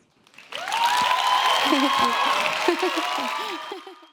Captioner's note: applause